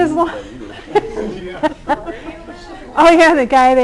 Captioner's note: laughter